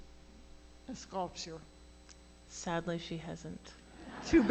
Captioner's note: laughter